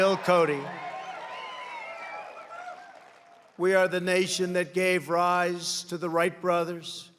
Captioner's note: applause